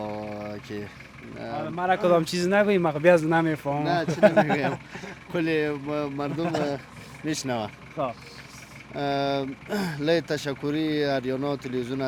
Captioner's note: speaking in Nuristani Language